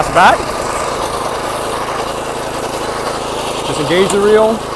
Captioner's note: engine roaring